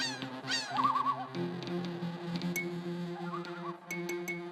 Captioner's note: bird calls; screeching